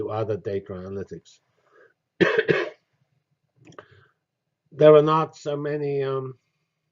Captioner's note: cough